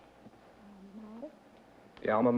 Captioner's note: whispered conversation